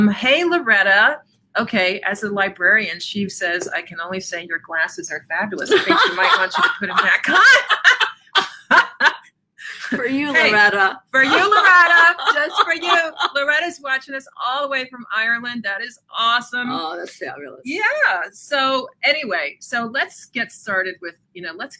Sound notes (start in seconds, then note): 5.6 laughs; 8.1 both laugh; 11.1 laughs